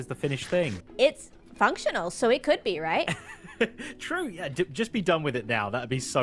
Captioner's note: laughs